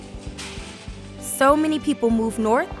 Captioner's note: whirring